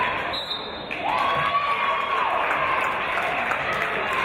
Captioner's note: referee's whistle